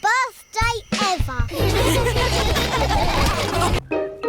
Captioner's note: all laughing